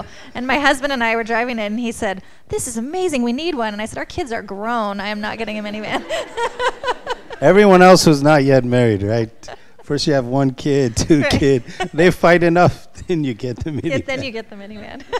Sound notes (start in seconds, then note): 5.9 chuckles